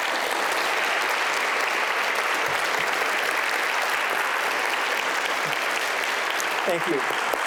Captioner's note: applause